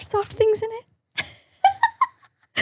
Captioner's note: laughs